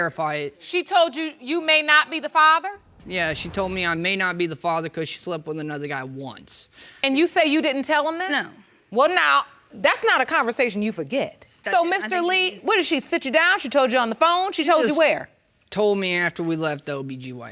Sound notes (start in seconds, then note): none